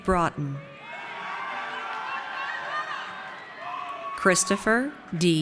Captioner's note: audience cheers